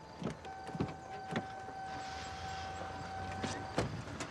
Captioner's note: dinging